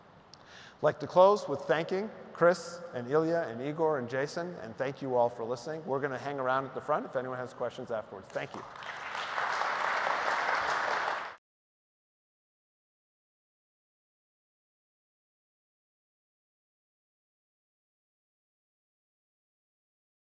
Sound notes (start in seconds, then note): 8.3 applause